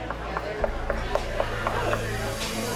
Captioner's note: knocking